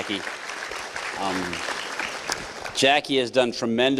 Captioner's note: applause